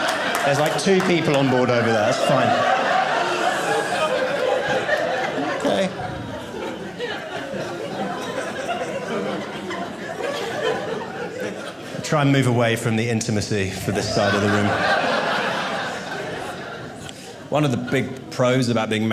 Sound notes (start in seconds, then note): 2.9 audience laughing; 13.8 audience laughing